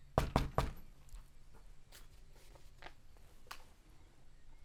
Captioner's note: knocking on the door